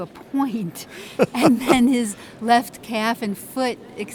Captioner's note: male laughs